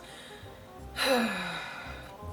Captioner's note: deep sigh